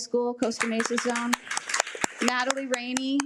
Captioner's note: attendees applaud